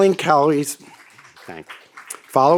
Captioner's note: audience applauds